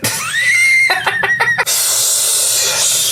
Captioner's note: laughs